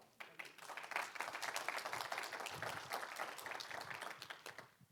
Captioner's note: audience applauding